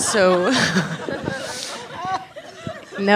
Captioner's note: laughs